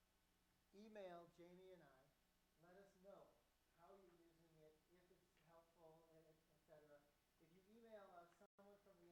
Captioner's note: applause